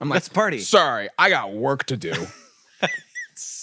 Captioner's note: laughs